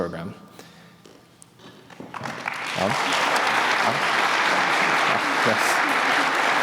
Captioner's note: applause